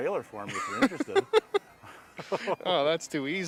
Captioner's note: laughing